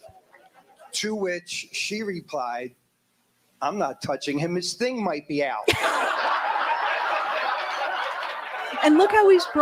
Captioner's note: laughter